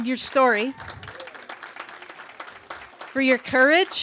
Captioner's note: applause